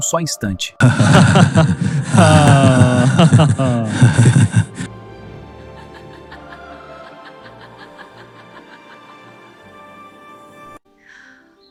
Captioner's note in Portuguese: risadas